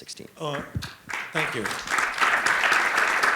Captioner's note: applause